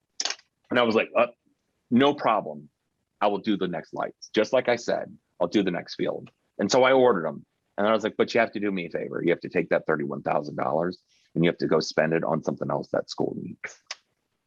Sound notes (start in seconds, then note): none